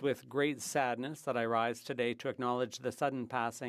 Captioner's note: speaking French